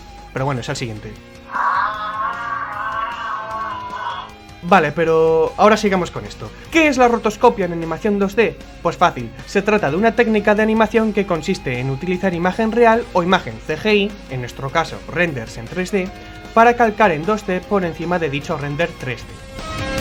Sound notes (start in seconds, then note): 1.4 giraffe noises